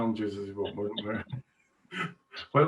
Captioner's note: chuckles